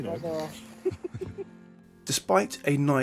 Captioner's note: both laughing